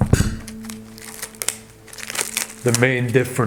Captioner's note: plastic crinkles